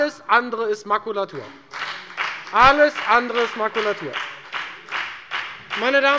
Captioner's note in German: Beifall bei der FDP